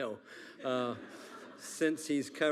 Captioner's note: attendees laughing